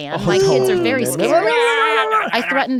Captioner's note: ululating